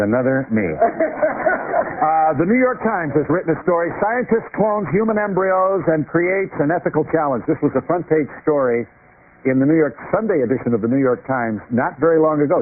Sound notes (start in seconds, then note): 0.8 laughs